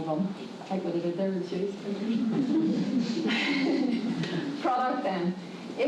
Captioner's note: laughs